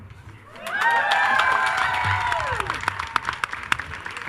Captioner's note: attendees cheering